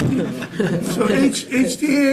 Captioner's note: panel laughing